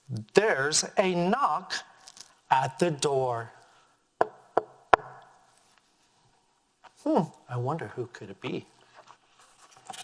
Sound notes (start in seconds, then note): 4.2 knocking